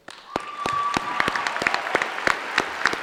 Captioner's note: applause